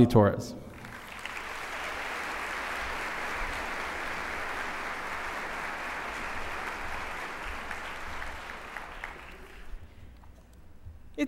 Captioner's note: applause